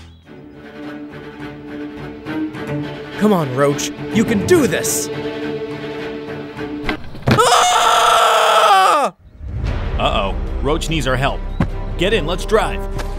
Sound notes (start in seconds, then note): 0.0 upbeat adventurous music; 7.3 Roach screaming